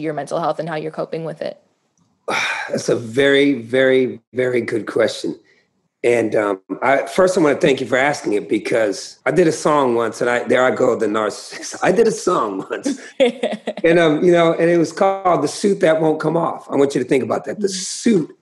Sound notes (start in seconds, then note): 11.4 laughter